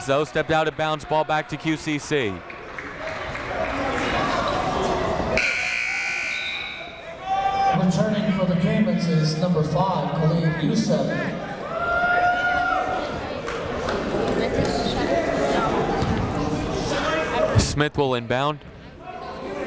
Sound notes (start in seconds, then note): 2.8 chatter; 12.9 chatter